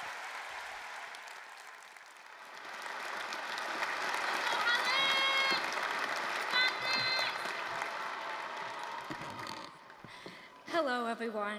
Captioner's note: applause, cheering